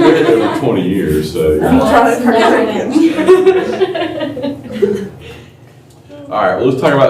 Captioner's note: laughter